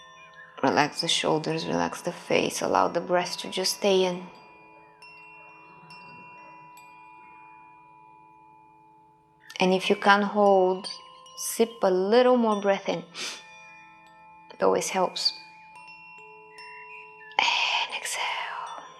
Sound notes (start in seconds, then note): 5.4 tranquil music; 13.1 inhaling